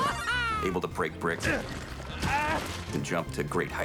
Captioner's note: chuckles; grunting